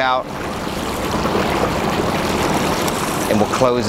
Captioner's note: water sloshing